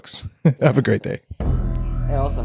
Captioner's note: laughs; techno music